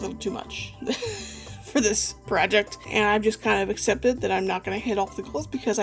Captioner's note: laughs